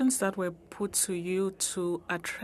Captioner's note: speaking French